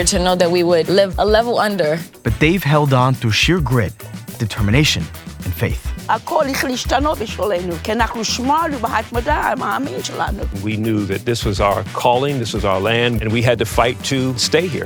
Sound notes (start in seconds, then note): 6.2 speaking in foreign language